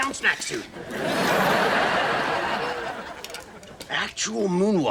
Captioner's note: audience laughs